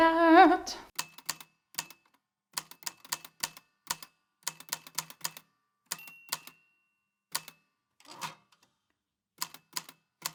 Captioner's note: the typewriter clicks and clacks away, with dings here and there